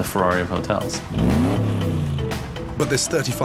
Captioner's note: car engine revs